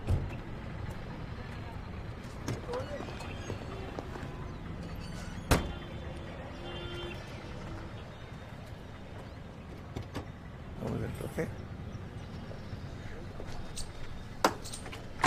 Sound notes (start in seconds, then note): 1.2 people chattering